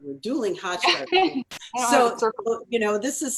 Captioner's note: laughing